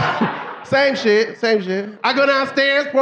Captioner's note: audience laughing